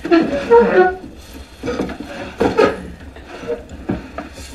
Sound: chair squeaking

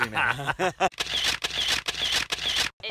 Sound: laughing; camera Shutter

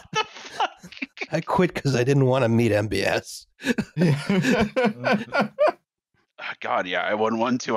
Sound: laughter; laughing; laughter

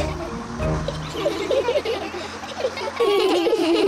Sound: all giggle

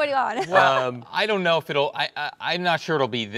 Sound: laughs

